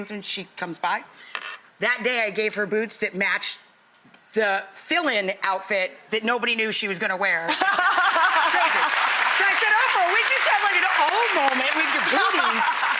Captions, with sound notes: my favorite things when she comes by. That day, I gave her boots that matched the fill in outfit that nobody knew she was gonna wear. (Ann laughs) (audience applauds)